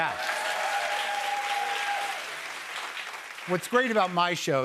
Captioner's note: cheers and applause